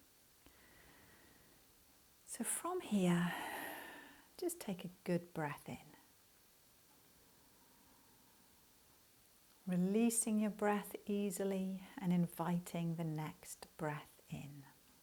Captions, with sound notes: So from here (breathes), just take a good breath in releasing your breath easily, and inviting the next breath in,